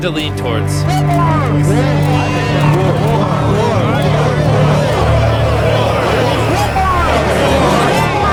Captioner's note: overlapping shouting